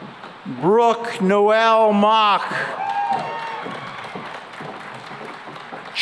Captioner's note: cheering and applause